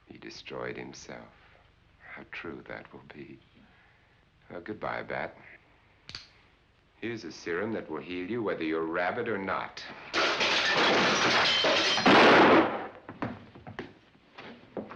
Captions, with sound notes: He destroyed himself, how true that will be. Well, goodbye, Bat. (gun clicking) Here's a serum that will heal you whether you're rabid or not. (crashing) (gun banging)